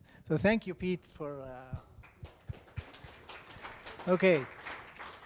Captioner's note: audience applause